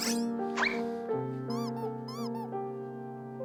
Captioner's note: Pengsoo tiptoeing